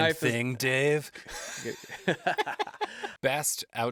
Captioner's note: laughter